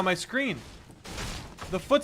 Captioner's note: crashing sounds